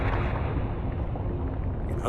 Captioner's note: intense rumbling